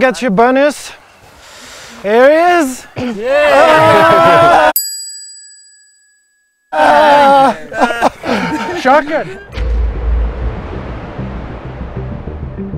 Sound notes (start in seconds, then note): 3.0 everyone exclaims; 4.8 ding sound